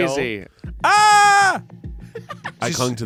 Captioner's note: yells